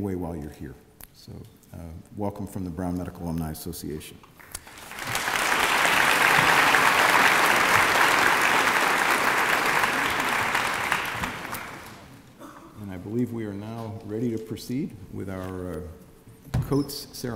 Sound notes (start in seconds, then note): 4.4 applause